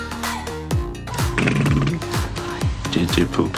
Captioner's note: blows raspberry